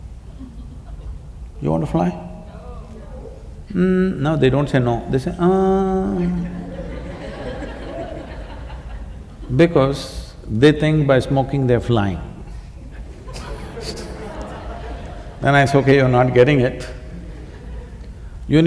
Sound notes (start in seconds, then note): 9.1 laughter